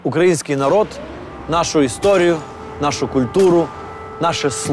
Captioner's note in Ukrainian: звук повітряної тривоги